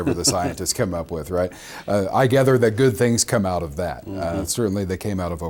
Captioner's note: laughs